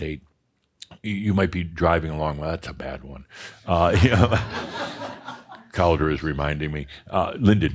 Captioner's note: some laughter